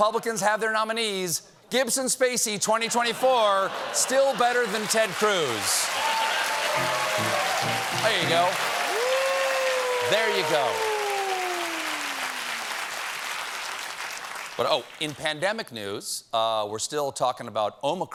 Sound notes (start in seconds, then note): 2.9 laughter; 11.3 cheers and applause